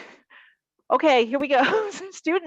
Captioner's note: chuckles